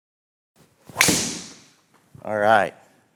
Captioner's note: golf club hits golf ball